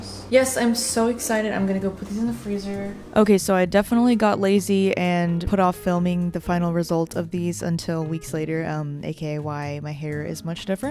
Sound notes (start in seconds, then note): none